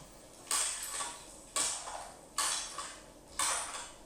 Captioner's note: metal clicking